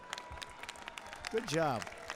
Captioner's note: applause